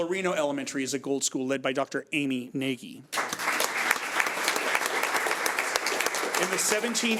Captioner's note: audience applauds